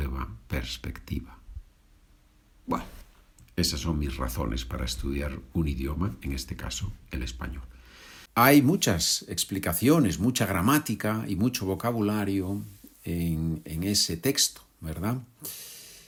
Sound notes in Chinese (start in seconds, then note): 4.2 这里是西班牙语